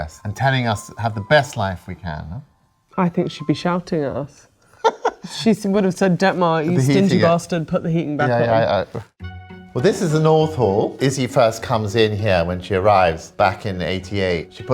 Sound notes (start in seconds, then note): 4.8 chuckles